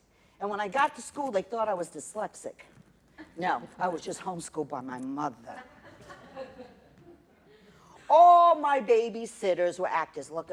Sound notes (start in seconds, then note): 5.5 laughter